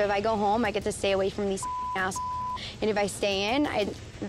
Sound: beep

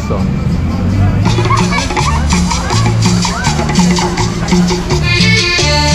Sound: excited kids

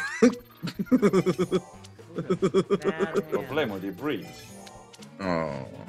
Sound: laugh

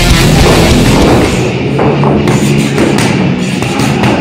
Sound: loud hardcore music; pads hitting

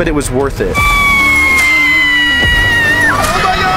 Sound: screaming

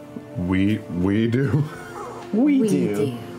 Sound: laughing

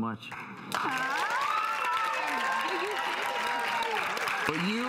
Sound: audience applauding

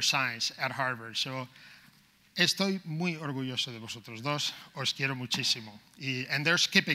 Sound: speaking in foreign language

